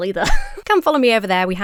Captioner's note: laughs